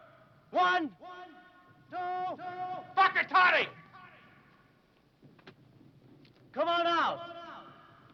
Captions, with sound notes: One. Two. (speaking foreign language) Come on out!